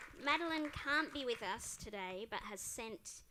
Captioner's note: applause